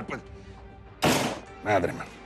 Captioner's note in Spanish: Portazo